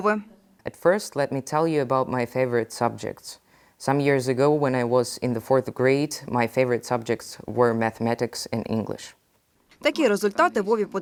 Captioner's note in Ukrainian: читає англійською